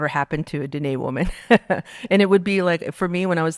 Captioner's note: laughing